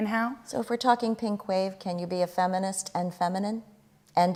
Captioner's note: none